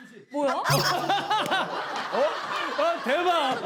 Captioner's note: Seung Gi bursts out laughing